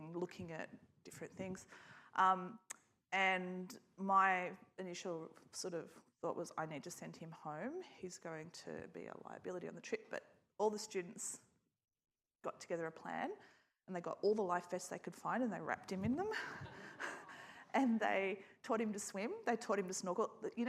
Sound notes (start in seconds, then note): 16.4 laughs; 16.4 audience laughs